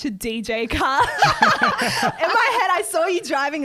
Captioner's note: laughing together